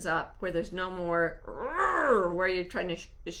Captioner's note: roaring